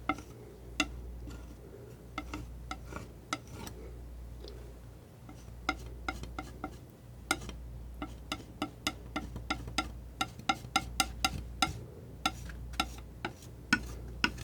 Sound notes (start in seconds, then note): 2.3 tapping